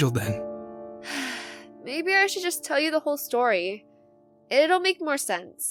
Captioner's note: sighs